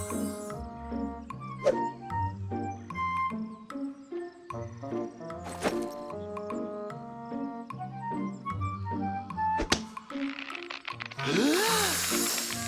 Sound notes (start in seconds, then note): 10.1 cinch creaking; 11.2 inhales